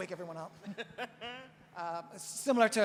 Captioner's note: laughs